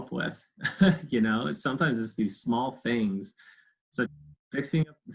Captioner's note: laughs